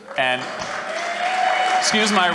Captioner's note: applause